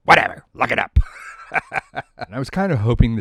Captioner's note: laughs